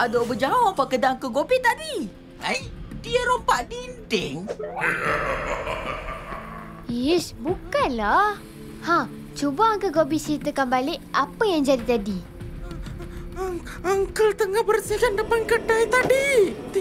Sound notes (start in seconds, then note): 4.8 faint echoey laughter